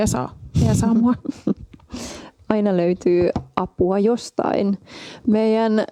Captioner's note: giggles